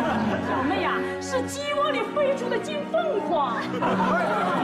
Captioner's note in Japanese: ははは